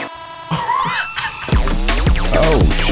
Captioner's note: laughing